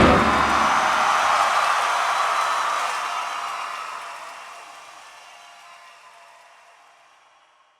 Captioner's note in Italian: applause